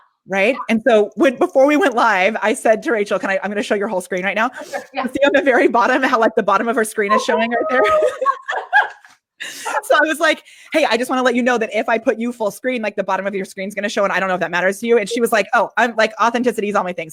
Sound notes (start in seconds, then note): 7.0 laughs